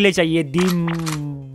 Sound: gun reloads

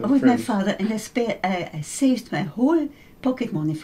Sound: laughs

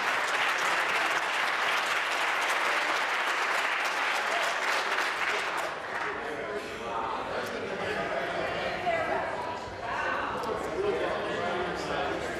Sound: applause

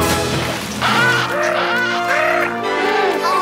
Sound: penguin noises

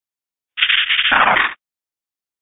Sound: angry seviper sound

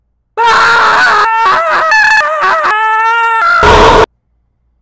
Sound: screaming

